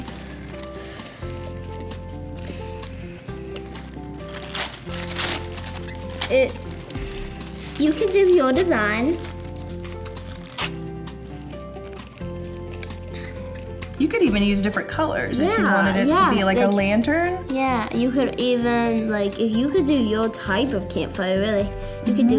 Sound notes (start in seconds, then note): 0.2 soft music; 4.6 paper rustling; 10.4 paper rustling; 11.2 soft music